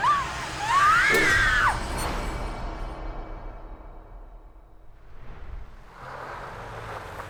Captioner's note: Hailey screaming; Hailey sobbing; hook swooshing; car engine rumbling